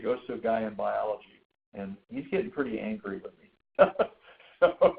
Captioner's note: laughs